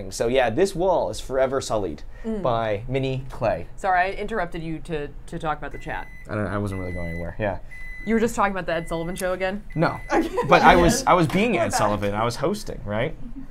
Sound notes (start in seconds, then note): 7.6 microwave beeping; 10.1 laughs